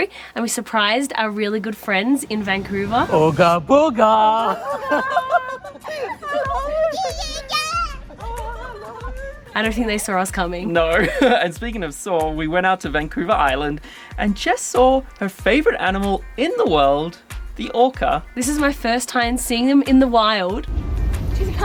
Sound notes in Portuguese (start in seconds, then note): 4.3 todos rindo